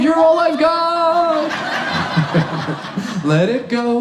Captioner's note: audience laughs